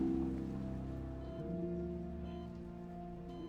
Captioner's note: monitors beeping rhythmically